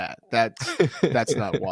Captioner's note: laughter